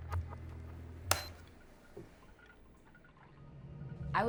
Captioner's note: beeps